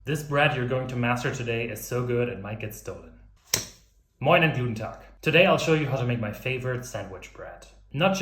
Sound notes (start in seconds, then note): 3.5 slapping